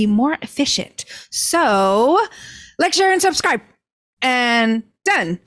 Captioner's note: speaking quickly